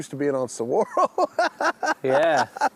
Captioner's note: laughing